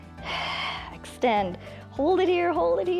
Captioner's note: exhales